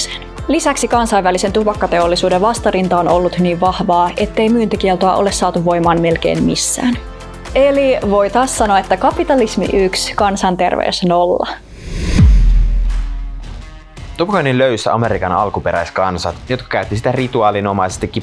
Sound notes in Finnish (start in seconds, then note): 11.6 siirtymä-äänitehoste